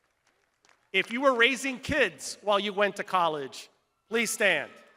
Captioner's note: crowd applauding